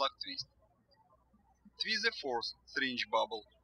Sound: birds chirping

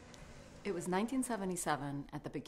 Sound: voiceover

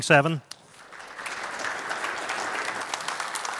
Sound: applause

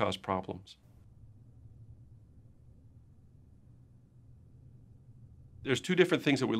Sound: silence

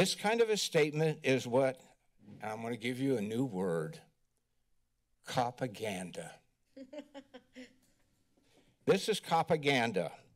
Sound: laughter

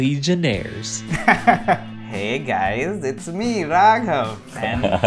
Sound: laughs

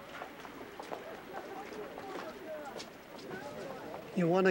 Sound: crowd murmuring

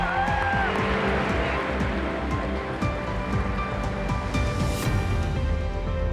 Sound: crowd cheers

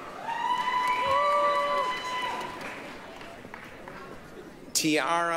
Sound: applause, cheering

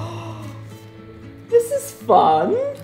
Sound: gasping

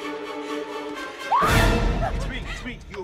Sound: screaming

